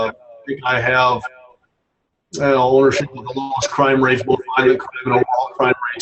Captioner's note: murmurs